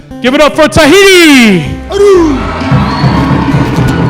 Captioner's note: applause; drums playing